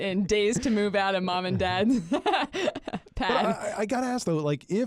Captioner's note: chuckles